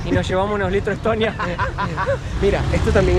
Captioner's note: laughs